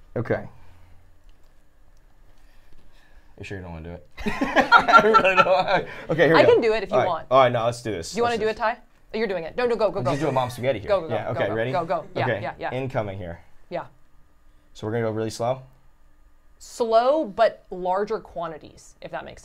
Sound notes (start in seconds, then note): 4.3 laughs